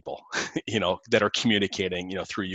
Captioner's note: chuckles